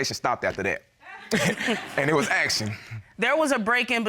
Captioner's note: laughs